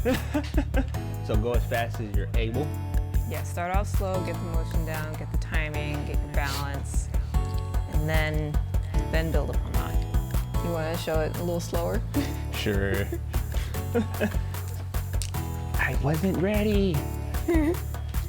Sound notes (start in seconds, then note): 0.0 laughs; 12.5 chuckles; 17.4 giggles